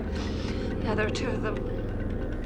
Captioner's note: laughing